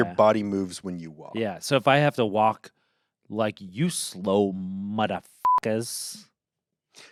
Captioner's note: beep